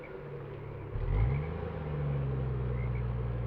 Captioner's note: car slowly rolls away